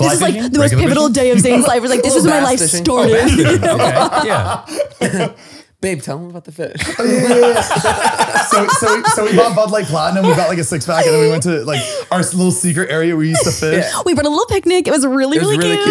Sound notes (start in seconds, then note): 4.0 they laugh; 6.8 all laughing